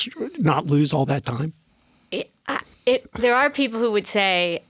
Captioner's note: stuttering